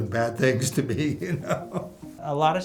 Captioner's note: laughter